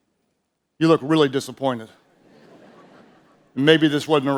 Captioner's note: audience chuckles